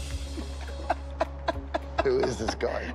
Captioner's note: laughs